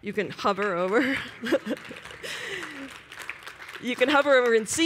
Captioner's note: applause